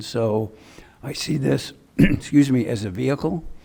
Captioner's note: clears throat